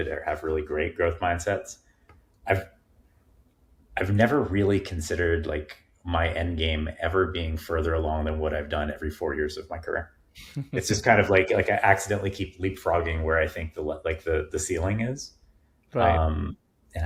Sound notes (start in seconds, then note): 10.4 chuckling